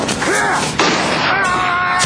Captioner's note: gunshot